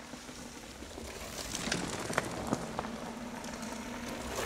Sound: mountain bikes passing

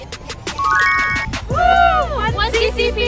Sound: bells trilling

